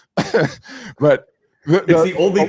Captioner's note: laughing